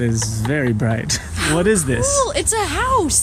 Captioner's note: giggles